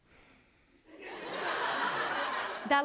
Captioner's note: laughter